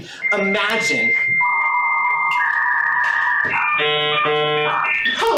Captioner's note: old modem connecting to internet sound